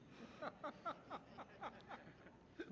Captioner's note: audience laughs